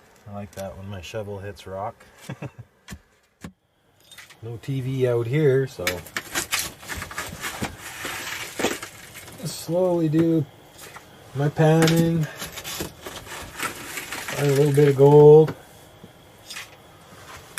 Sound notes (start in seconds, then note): 2.2 laughter; 6.3 shovel sound